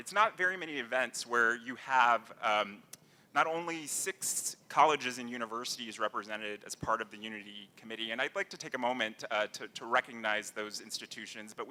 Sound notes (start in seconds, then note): none